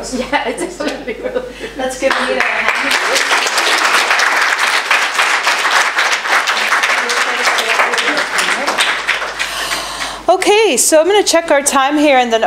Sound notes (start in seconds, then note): 1.2 laughs; 3.7 applause